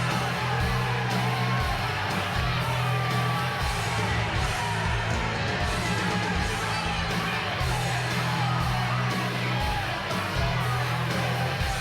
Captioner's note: crowd cheering